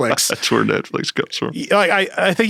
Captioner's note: laughs